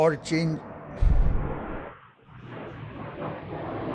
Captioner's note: thunder